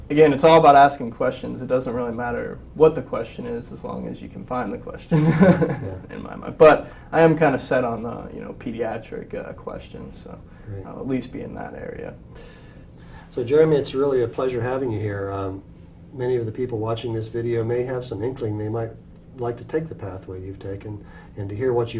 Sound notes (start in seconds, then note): 5.1 laugh